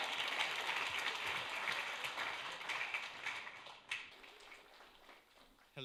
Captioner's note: applause